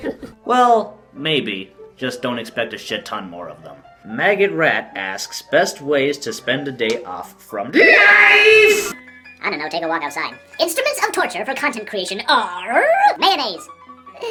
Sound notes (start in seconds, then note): 7.7 delay echo; 14.0 laughs